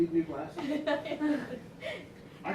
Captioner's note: laughs